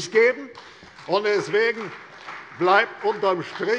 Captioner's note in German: Beifall CDU